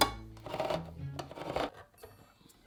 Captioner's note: can opener rotating